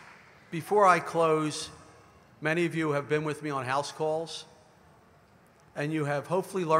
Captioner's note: applause